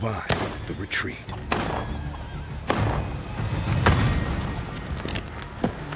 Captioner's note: gunfire